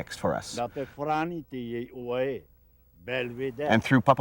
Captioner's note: speaking Tahitian language